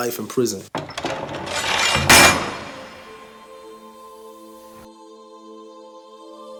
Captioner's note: prison bars slamming; angelic music